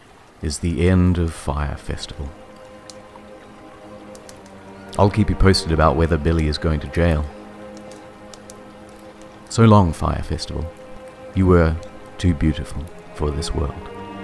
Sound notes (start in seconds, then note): none